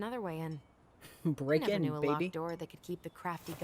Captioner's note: laughs